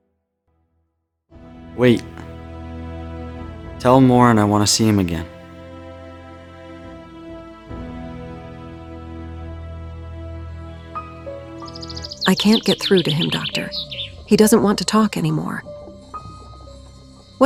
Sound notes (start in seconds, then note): 9.2 birds chirping; 9.2 creepy piano